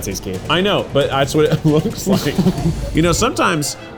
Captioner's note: laughs